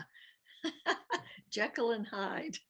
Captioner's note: laughs